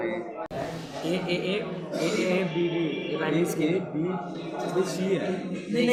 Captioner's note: overlapping student discussion